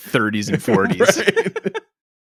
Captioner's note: laughs